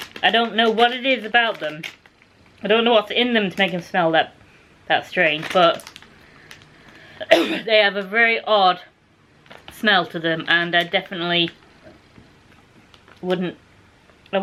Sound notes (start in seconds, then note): 7.1 cough